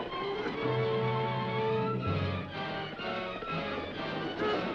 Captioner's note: dramatic music; horse hooves clopping